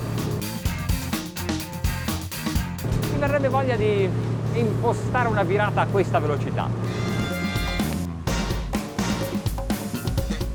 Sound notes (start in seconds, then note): 0.0 upbeat music; 3.5 speaks in foreign language; 7.8 upbeat music